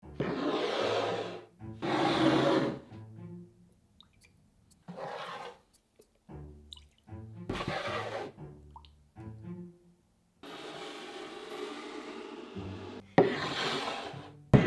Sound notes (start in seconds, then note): 0.2 cup sliding; 2.8 quirky music playing in background throughout video; 13.1 bowl sliding